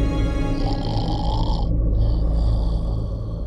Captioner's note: Snoring